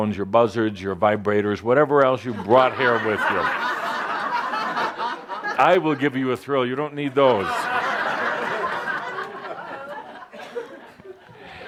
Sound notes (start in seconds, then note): 4.8 laughter; 7.1 more laughter